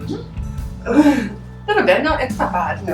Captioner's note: laugh